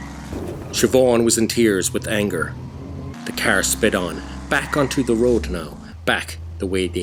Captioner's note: car revving